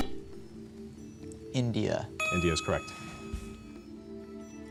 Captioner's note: buzzer